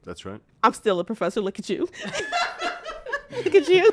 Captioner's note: laughs